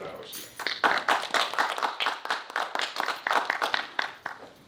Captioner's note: audience clapping